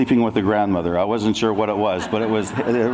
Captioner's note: audience laughs